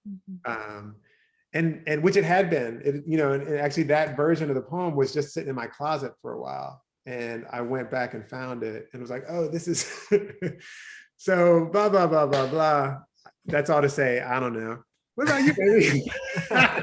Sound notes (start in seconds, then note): 9.7 chuckles; 15.2 laughing